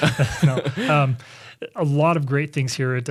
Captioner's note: laughs